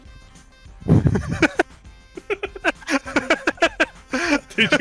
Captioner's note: laughs